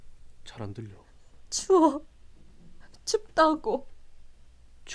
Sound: sobbing

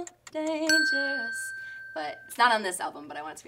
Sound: bell rings

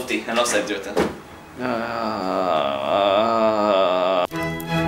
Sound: sighs

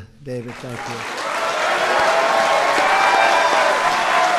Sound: audience cheers

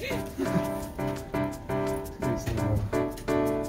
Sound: colleague chuckles

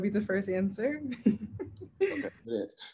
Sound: laughs

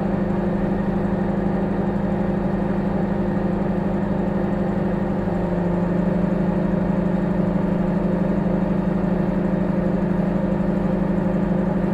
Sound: microwave humming

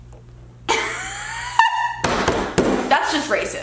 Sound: laughs

